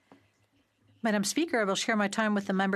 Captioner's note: speaking in French